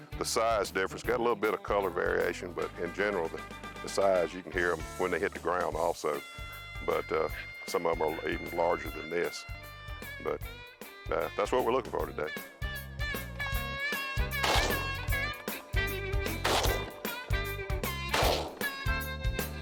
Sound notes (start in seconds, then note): 14.4 gun shots; 16.6 bluegrass music